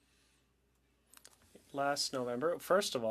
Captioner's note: speaking French